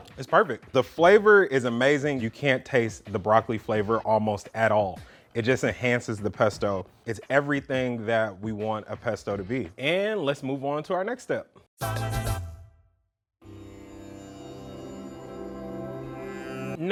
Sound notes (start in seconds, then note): 11.8 quirky sound; 13.5 suspenseful music